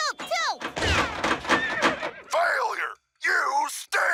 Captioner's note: gunshot, neighing